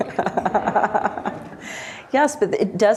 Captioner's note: laughter